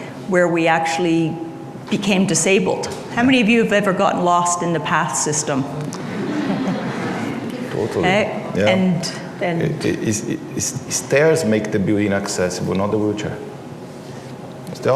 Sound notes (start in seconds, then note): 6.0 laughter